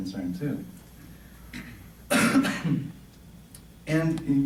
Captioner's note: coughing